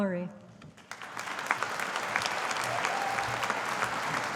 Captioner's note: audience applauding